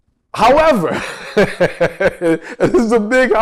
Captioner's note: laughs